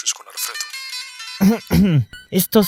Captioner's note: C vuelve a atraganta